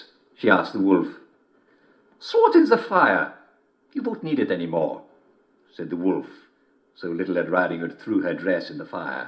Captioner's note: German accent